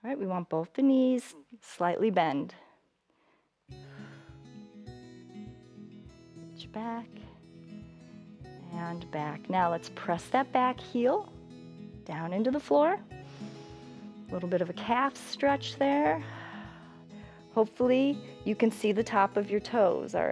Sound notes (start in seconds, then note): 16.8 exhales